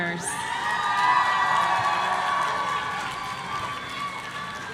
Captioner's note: audience cheering